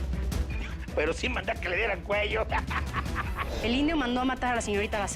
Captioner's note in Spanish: Risa sarcástica